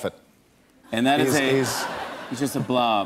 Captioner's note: laughter